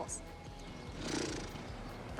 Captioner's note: sputters lips